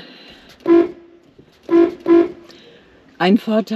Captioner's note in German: Hupen